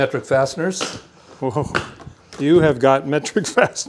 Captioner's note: soft thudding